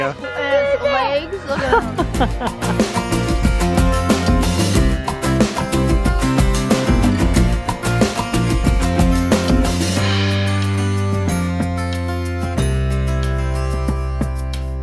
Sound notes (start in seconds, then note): 3.0 laughs; 4.5 lively music